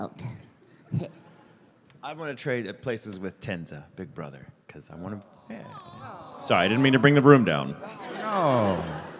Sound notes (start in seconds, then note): 5.4 audience: "awww"; 6.5 audience laughter